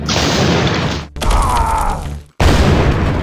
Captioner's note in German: Krachen; Schmerzenslaute, Krachen